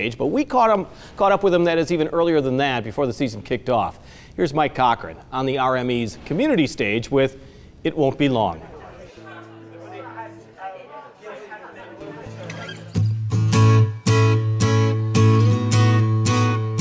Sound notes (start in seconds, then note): 8.6 audience talking; 13.7 acoustic guitar